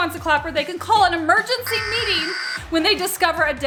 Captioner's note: alarm beeping